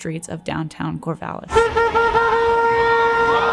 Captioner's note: protest chants